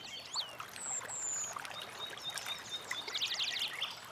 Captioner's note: birds singing